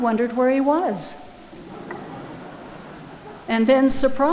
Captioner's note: audience laughing